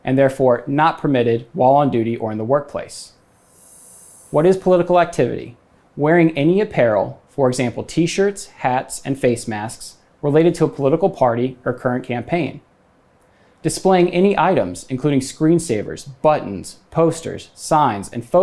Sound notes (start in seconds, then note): 3.2 graphics whooshing